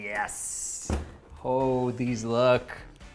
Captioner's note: oven door closes